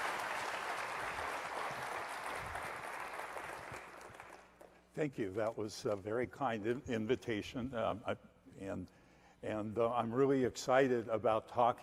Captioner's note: applause